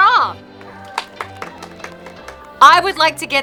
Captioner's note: applause